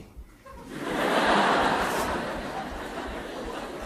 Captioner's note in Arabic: ضحك